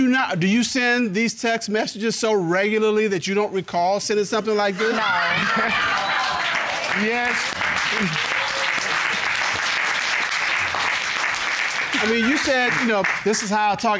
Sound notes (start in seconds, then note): 4.7 audience laughing; 7.8 audience applauding